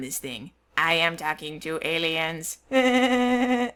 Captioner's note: in a silly voice